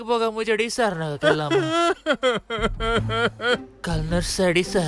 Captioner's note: crying